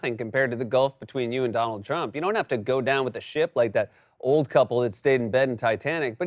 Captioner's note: none